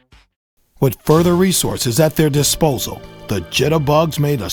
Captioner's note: voiceover